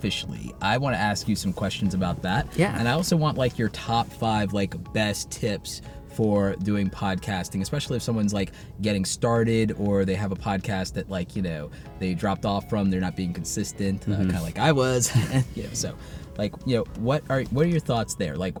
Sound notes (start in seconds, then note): 15.0 laugh